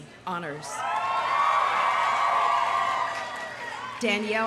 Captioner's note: audience cheering